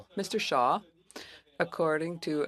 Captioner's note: speaking French